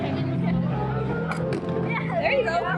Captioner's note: light thud